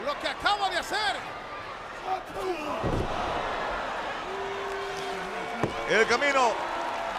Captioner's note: applause